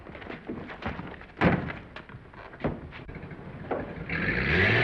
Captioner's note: door slamming; engine rumbling